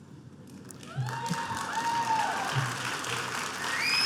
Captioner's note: applause